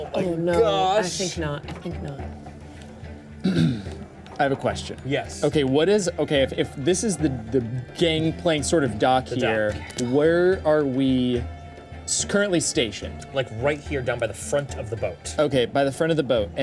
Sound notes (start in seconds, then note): 3.4 clears throat